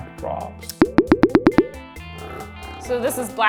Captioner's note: water dropping; nail polish vibrating